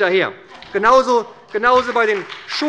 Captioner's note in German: Beifall bei der SPD